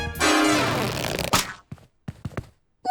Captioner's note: stretching, snapping